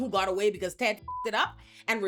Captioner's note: beep